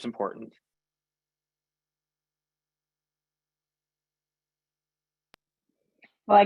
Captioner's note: silence